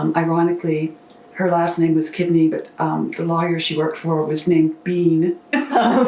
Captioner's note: laughter